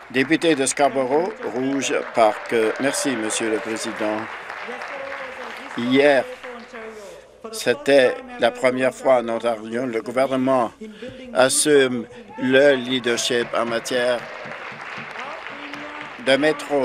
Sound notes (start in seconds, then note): 0.0 applause; 4.6 applause; 16.4 applause